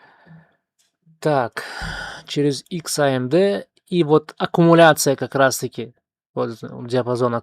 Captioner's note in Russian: тяжело вздыхает; вздыхает